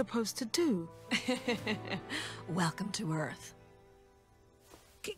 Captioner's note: laughter